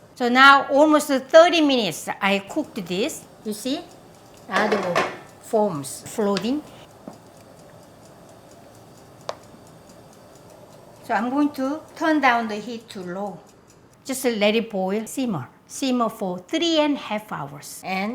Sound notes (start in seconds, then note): 7.6 clock ticks